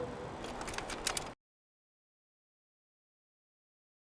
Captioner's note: projector clicks